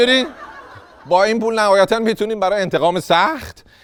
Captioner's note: laughter